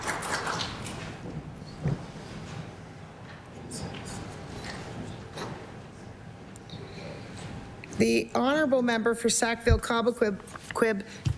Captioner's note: applause